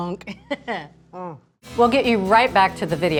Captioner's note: laughs